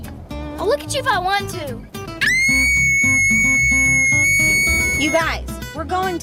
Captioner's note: screaming